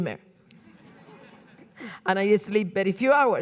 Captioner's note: audience laughing